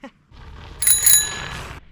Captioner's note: bike Bell